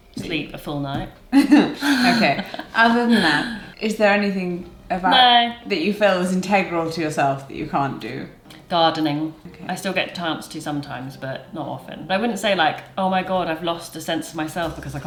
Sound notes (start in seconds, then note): 1.4 chuckles